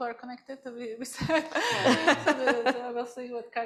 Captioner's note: laughter